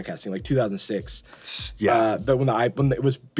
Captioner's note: scoffs